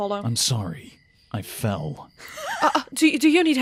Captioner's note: laughs